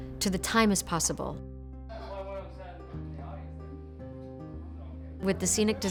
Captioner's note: delicate piano music; people chattering